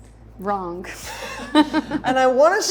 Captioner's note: laughs